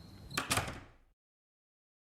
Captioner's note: door clicks shut